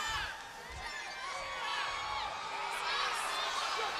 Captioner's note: crowd heckling